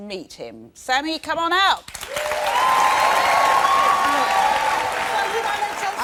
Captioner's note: cheers and applause